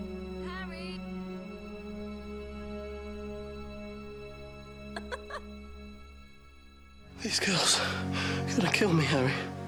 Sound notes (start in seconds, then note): 4.9 laughs